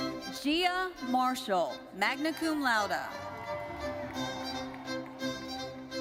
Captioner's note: audience cheering